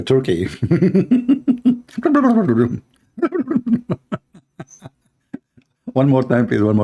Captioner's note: Ketawa